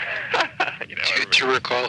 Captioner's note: laughs